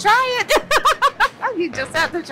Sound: laughs

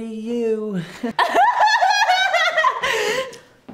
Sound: laughter

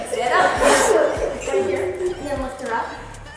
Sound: giggling

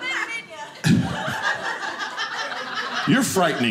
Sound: audience laughing

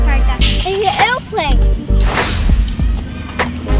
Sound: sound effect: swoosh!

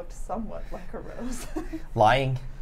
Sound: laughs

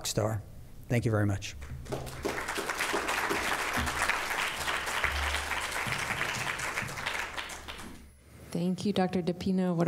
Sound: applause

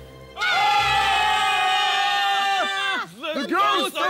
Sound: screaming!

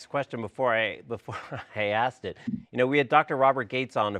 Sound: chuckles

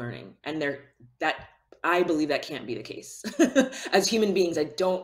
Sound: laughs

